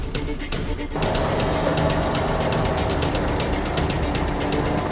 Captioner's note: engine roaring